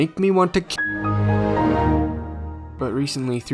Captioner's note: Windows XP shutdown